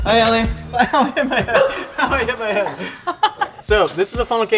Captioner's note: laughing